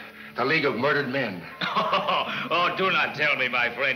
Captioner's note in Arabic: يضحك